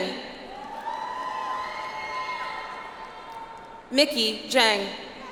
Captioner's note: audience applauds